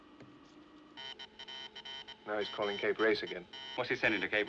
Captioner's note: Clique, Zumbido Continue